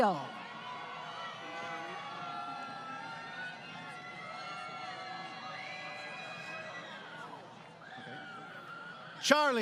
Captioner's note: crowd Cheering